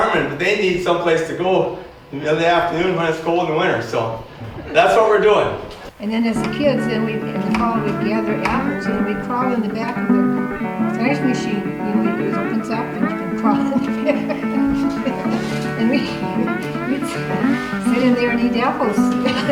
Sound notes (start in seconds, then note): 14.7 laughter; 16.3 laughs